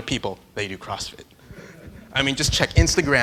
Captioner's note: laughing